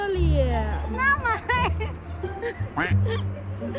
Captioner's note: laughing